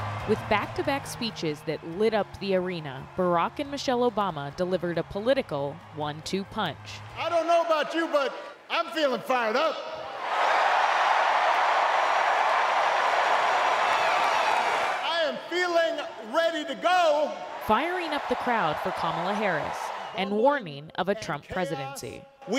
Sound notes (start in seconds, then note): 11.7 cheering; 12.7 applause